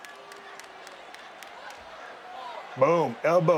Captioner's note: audience members cheering